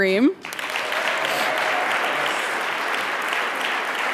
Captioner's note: audience applauding